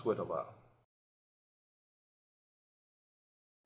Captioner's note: silence